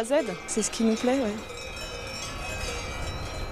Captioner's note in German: Kuhglocken